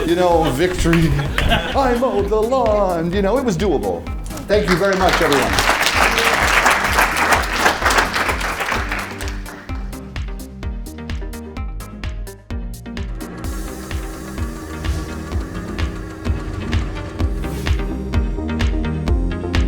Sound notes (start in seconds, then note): 4.3 applause